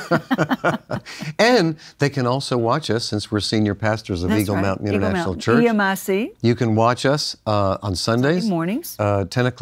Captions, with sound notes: the kid done good. (laughs) - And they can also watch us since we're senior pastors International Church. of Eagle Mountai - EMIC. - You can watch us on Sundays.